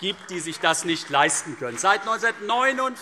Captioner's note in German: Beifall CDU